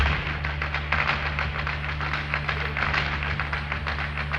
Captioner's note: tap dance shoes clanking